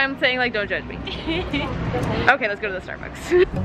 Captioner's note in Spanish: se ríe